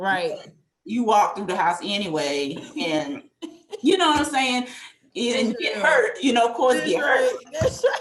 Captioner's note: laughter